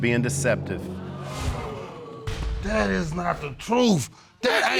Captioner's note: audience exclaiming